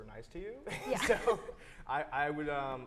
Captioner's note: laughs